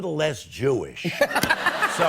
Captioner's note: laughter